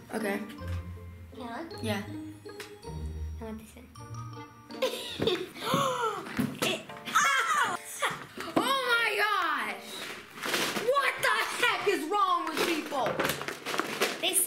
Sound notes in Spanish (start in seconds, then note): 4.8 risas